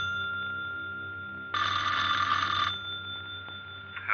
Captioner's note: phone ringing